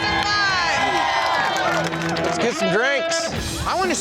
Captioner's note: group cheering